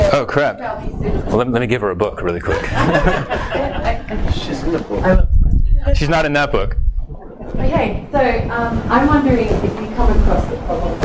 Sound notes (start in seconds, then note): 2.5 all laugh